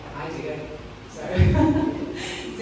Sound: laughs

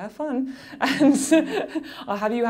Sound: laughing

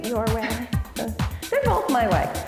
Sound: laughs

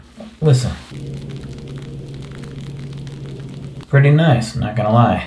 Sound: bubbles pop

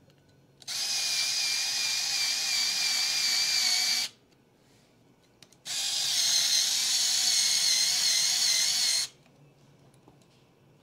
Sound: drill whirring

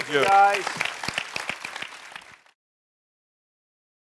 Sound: all applause

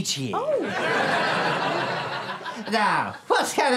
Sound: audience laughter

